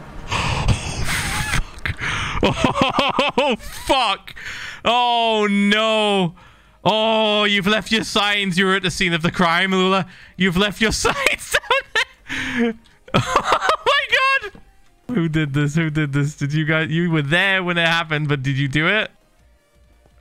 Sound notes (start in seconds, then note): 0.0 wheezing; 0.4 laughing; 1.9 breathless; 10.8 laughing